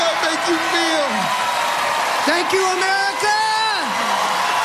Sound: cheers and applause

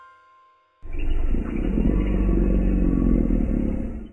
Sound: refrigegator croaking

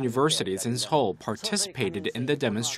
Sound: Korean

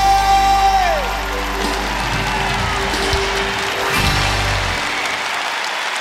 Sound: cheers and applause

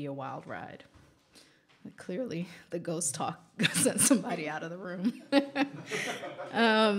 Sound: laughter

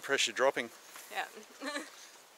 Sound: laughs

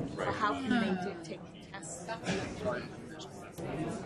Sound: voiceover

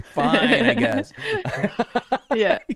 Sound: laughter

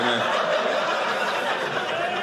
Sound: audience laughing

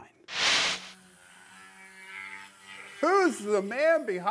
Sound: tool buzzing

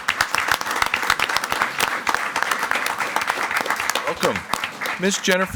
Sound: everyone applauding

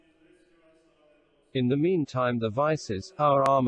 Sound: voice reads

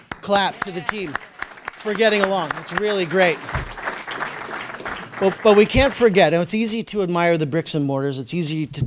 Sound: applause

